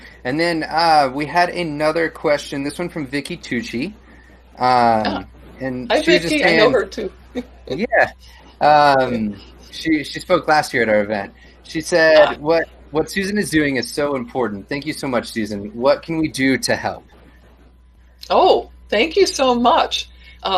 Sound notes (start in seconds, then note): 7.4 laughs